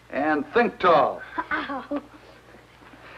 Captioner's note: giggling